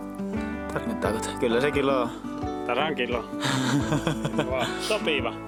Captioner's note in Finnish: naurua